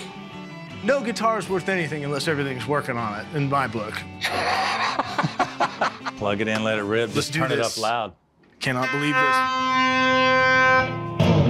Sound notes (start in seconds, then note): 4.2 laughter; 10.9 playing hard rock